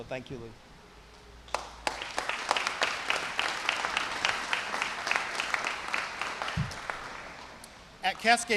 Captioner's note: applause